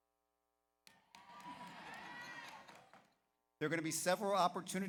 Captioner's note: audience applauds; audience cheers